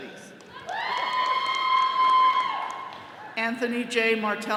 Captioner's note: all cheering